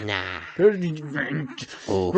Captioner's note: grunting